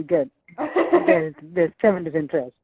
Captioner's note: laughs